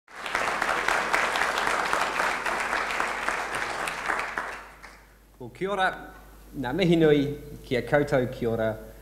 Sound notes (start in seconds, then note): 0.0 applause